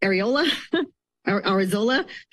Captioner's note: laughs